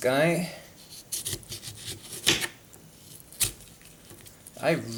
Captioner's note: chopping noises